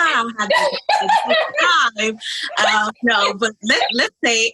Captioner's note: laughs